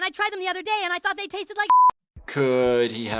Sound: beep

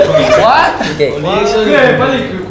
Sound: Krunk protesting

